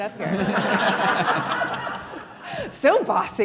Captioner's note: audience laughs